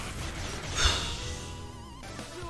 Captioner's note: puff